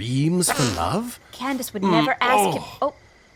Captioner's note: fart